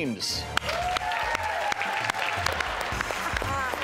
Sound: crowd cheering

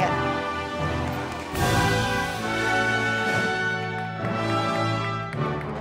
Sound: audience applauding

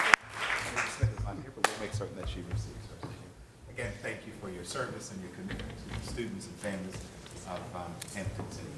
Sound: applause

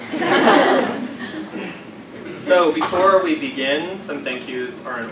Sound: laugh

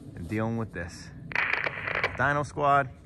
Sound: static crackles

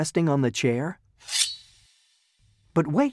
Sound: shing

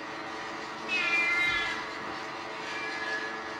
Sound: cat wails

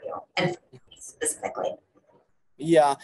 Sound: audio breaking

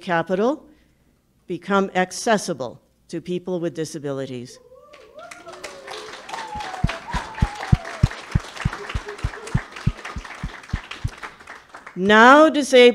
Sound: public clapping

